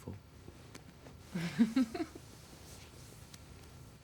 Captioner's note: laughs